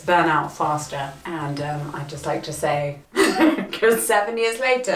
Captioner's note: laughs